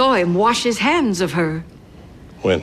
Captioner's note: none